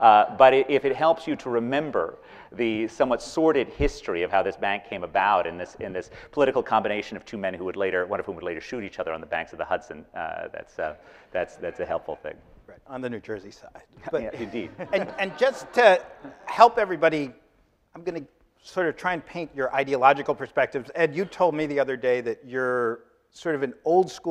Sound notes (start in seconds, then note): 14.0 laughing